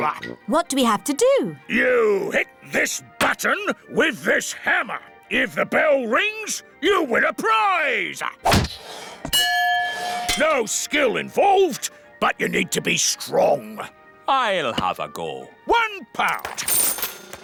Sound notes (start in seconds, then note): 8.3 thud; 9.3 bell rings